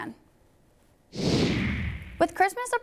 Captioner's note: whoosh!